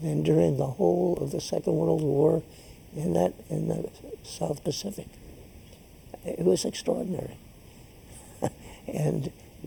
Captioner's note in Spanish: risas